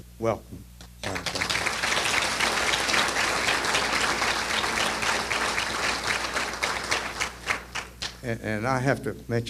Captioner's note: applause